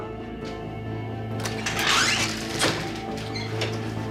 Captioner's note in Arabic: يفتح الباب